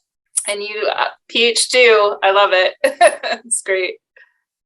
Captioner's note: chuckles